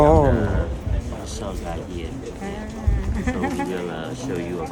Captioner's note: speaking